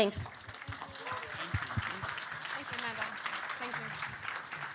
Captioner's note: audience clapping